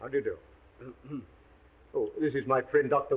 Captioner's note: Watson coughs